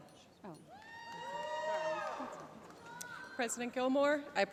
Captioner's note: cheering